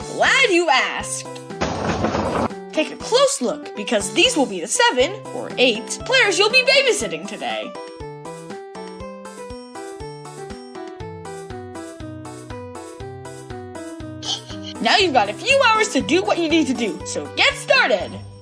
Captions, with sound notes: Glad you asked! Take a close look, because these will be the seven, or eight, players you'll be babysitting today! *snickering* Now you've got a few hours to do what you need to do, so get started!